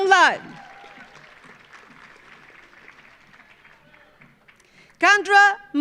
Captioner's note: audience cheering; audience applauding